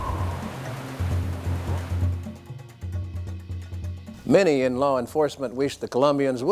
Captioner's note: submarine beeps; waves splashing